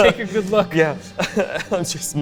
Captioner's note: laughs